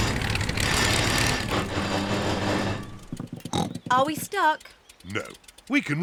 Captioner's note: snorts